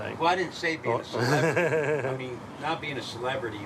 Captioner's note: laughs